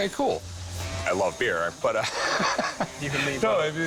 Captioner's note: laughing